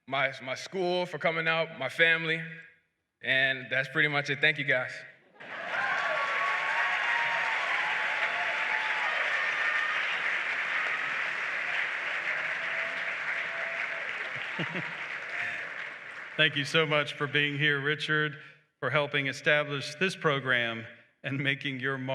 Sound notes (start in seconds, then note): 5.4 applause